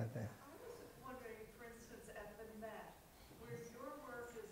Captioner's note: voiceover